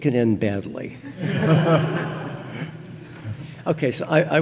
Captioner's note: audience laughing